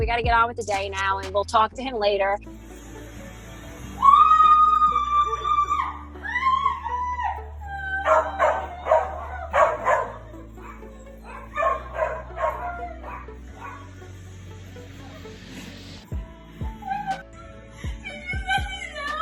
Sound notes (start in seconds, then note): 3.9 screaming; 8.0 dog barks